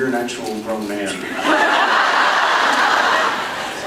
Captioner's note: laughs